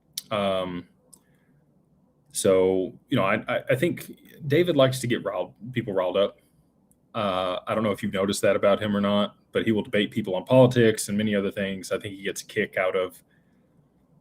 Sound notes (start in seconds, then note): none